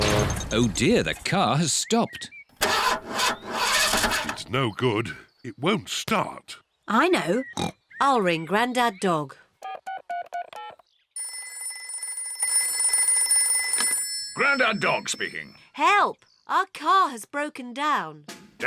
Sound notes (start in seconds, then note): 2.6 engine sputters; 7.6 snorts; 9.6 buttons beeping; 9.6 phone rings